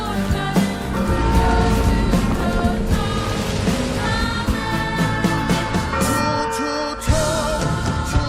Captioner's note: bell pealing; bluesy song playing